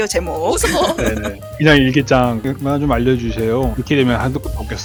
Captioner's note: laugh